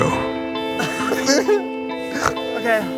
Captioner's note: sobs